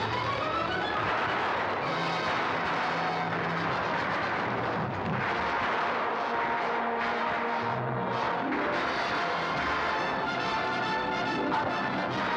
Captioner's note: dramatic music; gunfire